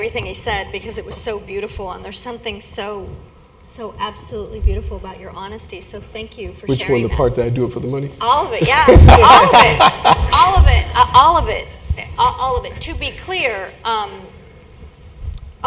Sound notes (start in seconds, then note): 8.6 laugh